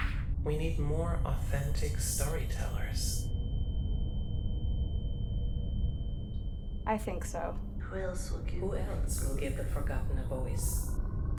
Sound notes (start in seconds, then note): 3.0 high pitched tone; 8.7 echoes